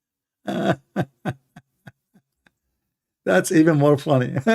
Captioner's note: Ketawa